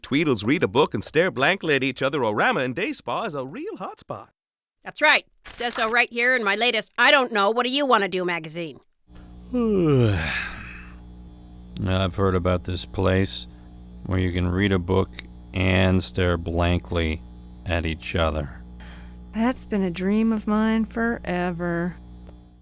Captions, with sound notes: read-a-book- and-stare-blankly- at-each-other- o-rama and day spa" is a real hot spot! That's right. It says so right here in my latest "i don't know, what do you want to do?" magazine. [ yawn ] I've heard about this place where you can read a book, and stare blankly at each other. That's been a dream of mine forever.